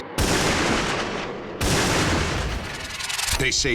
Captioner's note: gunshot